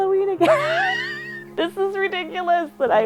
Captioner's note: laughs